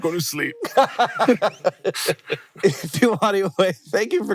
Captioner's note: laughing